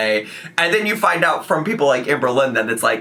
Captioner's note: none